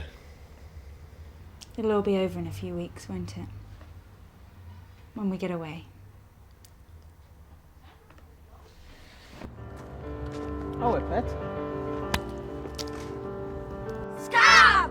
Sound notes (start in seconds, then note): 12.1 eggs smash